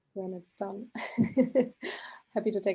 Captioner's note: giggling